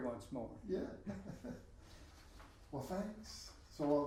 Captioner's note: laughing